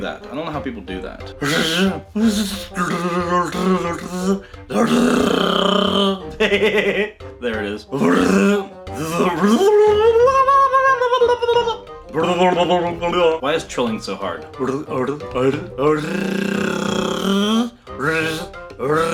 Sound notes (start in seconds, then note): 6.1 silly laughter; 15.9 fish noises?